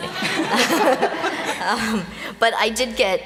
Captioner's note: laughter